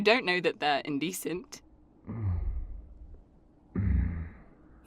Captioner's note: another noise—this one closer to a growl